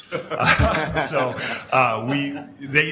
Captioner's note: laughing